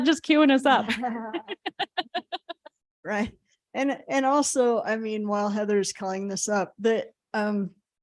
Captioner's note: laughter